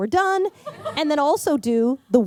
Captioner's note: laughter